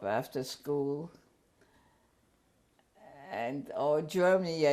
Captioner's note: pauses for 3 seconds